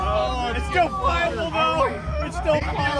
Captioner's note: crowd